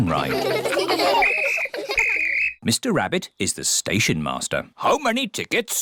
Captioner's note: blows whistle